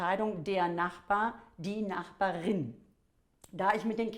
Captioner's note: female in German